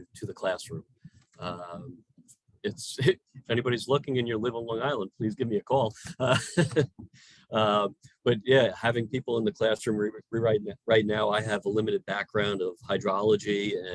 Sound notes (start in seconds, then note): 5.9 laughs